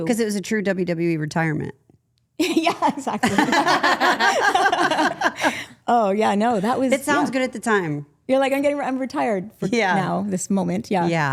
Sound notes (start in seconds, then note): 2.4 group laughing